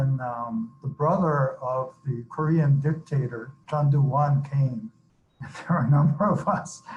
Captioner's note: laughs